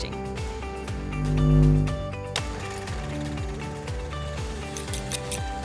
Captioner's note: upbeat music; bulb buzzing; scissors snipping; upbeat music